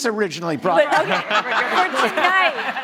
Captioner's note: panelists laughing; audience laughing